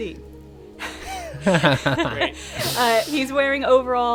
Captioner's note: laughing